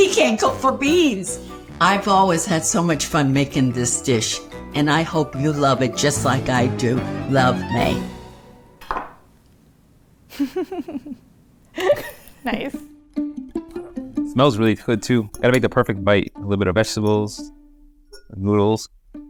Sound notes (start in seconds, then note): 8.8 bowl clanks; 10.3 laughing